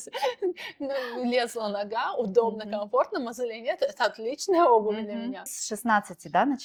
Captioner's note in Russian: смех